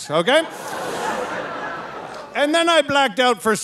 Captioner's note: audience laughing